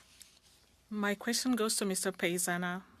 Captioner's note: speaking French